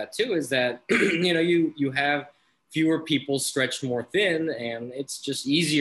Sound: clears throat

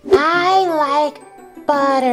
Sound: none

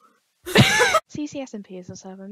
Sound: laughter

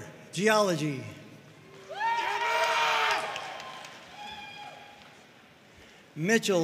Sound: audience cheering and applauding

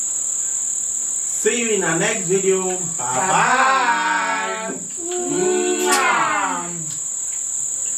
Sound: kisses

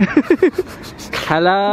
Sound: laughs

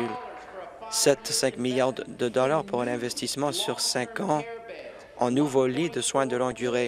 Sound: applause

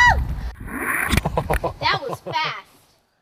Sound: laughing

